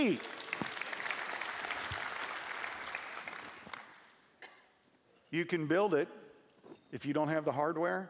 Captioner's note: applause